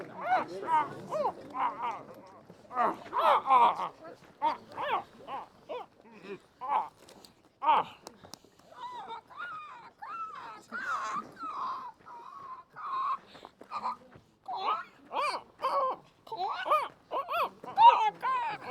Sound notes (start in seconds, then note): 0.2 grunting